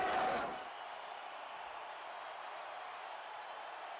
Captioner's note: crowd cheering